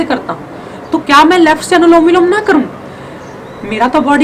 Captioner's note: alternate nostril breathing